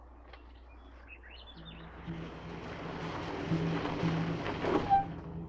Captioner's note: birds chirping